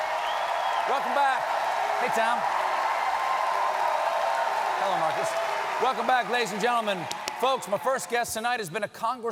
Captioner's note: cheers and applause